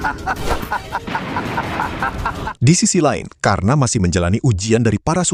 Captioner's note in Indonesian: tertawa